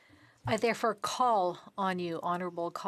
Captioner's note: speaking French